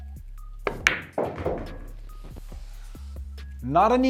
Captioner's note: ball bangs